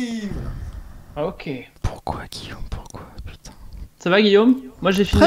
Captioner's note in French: chuchote